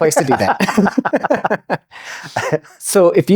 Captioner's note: both laughing